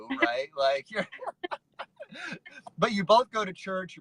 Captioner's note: laughs